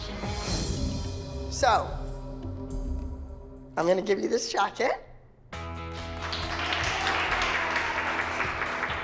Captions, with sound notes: So... I'm gonna give you this jacket. ( applause )